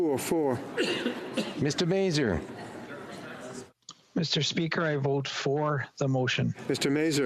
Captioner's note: speaking FRENCH